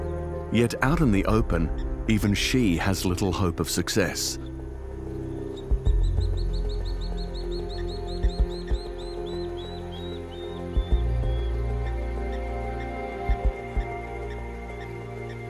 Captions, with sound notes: Yet out in the open even she has little hope of success. [bird screeches]